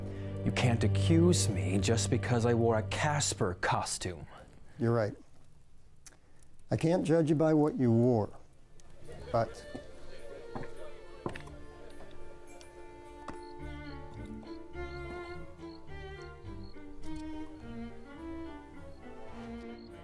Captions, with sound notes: You can't accuse me just because I wore a Casper costume. - You're right, I can't judge you by what you wore, but... (party guests chattering) (playful orchestral music)